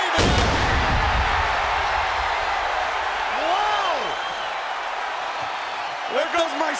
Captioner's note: applause